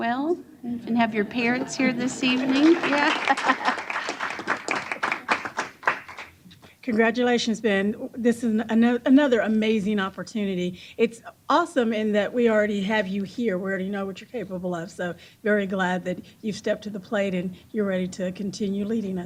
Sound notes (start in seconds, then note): 1.6 applause; 4.2 chuckles